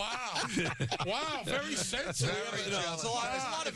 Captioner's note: laughing